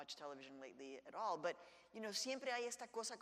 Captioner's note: speaks in Spanish